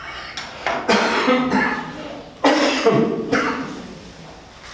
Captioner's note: coughing